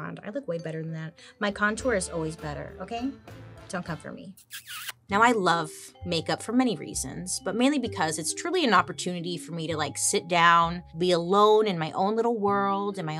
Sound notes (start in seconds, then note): 4.4 smooches